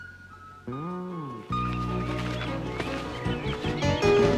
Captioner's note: birds tweeting